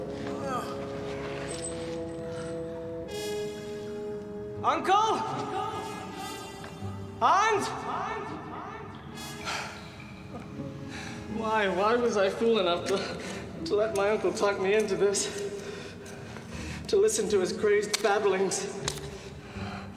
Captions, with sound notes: ( Groans ) UNCLE?! HANS?! WHY? WHY WAS I FOOL ENOUGH TO LET MY UNCLE TALK ME INTO THIS... TO LISTEN TO HIS CRAZED BABBLINGS!